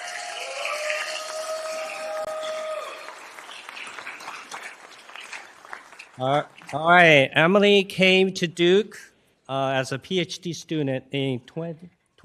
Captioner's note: applause